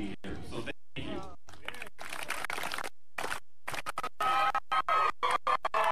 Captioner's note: applause and cheers